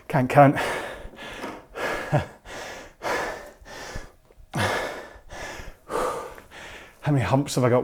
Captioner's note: breathes heavily